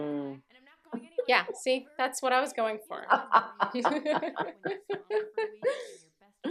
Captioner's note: laughter